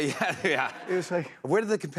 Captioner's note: laughter